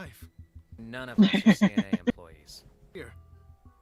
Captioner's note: laughing